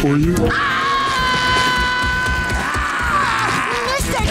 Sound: screaming

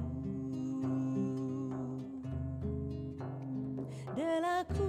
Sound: low vocalizing

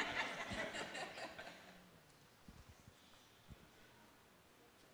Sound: laughter

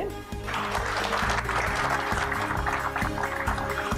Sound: applause

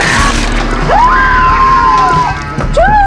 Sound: screaming

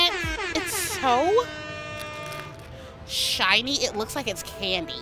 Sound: air horn blares

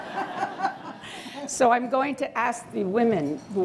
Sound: laughter

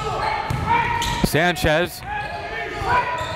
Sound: cheering and yelling

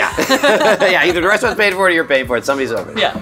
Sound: both laughing

